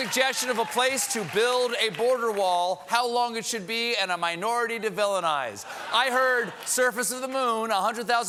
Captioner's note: applause